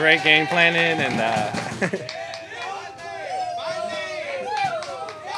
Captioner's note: teammates cheering